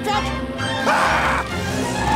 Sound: screaming

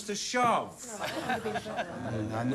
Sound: laughing

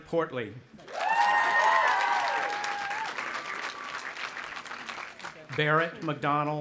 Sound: audience applauding and cheering

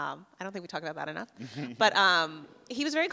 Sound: laughs

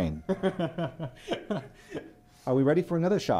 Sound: laughing

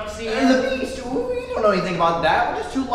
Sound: Wirts Voice Cracks

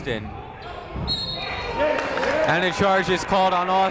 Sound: whistle blowing

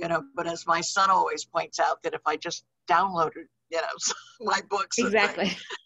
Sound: laughs

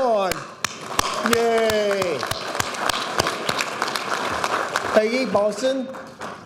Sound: audience applauding

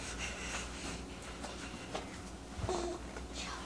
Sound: baby grunting

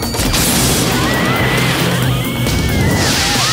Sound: screaming

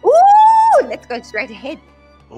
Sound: screaming

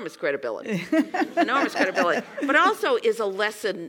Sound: laugh

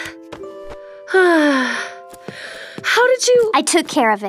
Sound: Marceline sighs

